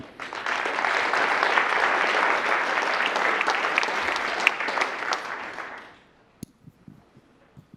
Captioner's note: applause